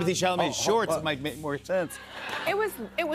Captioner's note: laughter